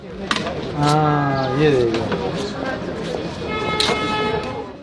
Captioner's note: people talking